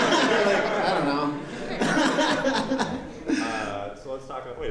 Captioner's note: laughter